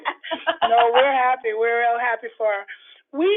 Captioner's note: laughter